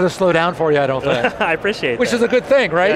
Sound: laughing

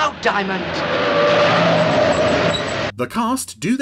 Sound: car wheels squealing

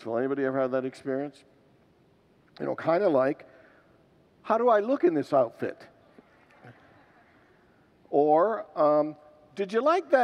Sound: congregants laugh

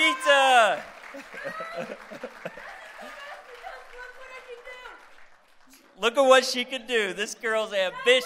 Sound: applause; laughter

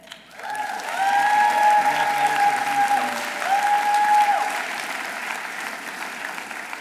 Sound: audience applauding; audience cheering

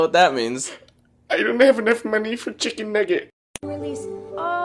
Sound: sob

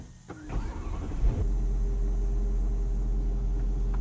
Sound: engine revs softly

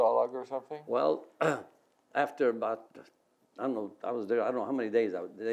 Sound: clears throat

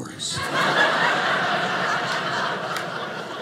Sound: audience laughing

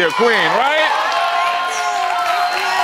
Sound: audience cheers

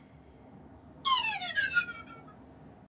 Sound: comedic sound plays

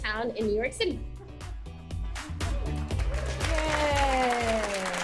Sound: applause

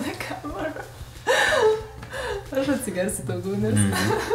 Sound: continue laughs

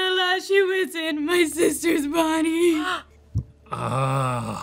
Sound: crying

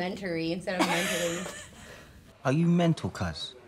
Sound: laughing

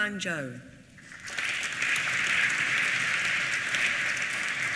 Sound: applause

